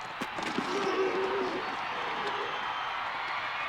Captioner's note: grunting; crowd cheering